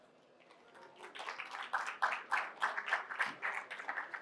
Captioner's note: audience claps